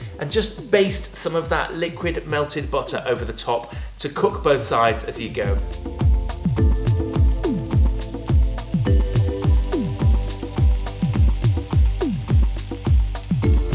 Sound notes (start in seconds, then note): 6.9 meat sizzling; 6.9 upbeat music